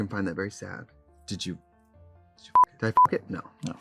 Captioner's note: beep